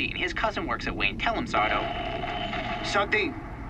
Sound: static crackles

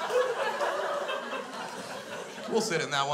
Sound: crowd continues to laugh

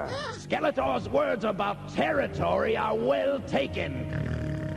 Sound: snort

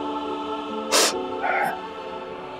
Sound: sniffs

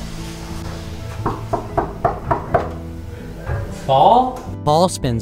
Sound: knocking

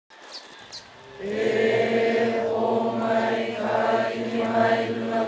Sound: group chanting in Hawaiian

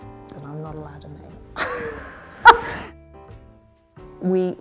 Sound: laughs

